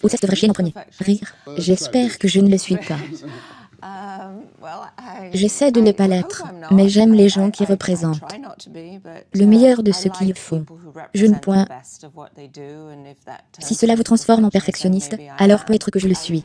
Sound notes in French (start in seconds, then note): 2.7 rires